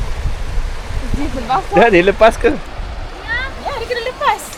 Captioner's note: speaking German